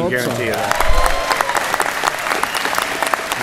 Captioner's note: applause